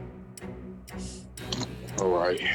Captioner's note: sighs